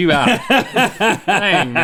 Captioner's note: laughs